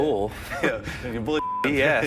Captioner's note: beep